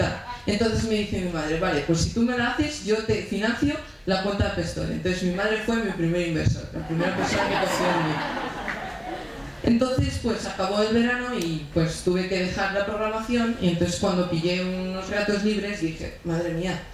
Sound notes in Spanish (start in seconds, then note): 6.8 Risas